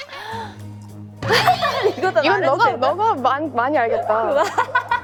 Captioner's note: only one laughing